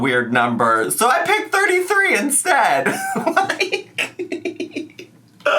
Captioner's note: laughs